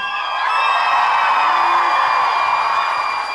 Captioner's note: audience cheering